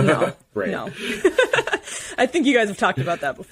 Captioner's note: laughing